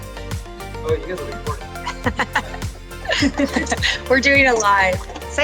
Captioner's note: chuckles